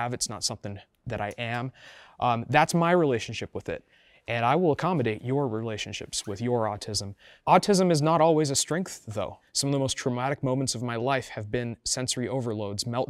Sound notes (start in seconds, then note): none